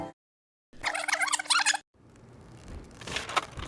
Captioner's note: tape rewind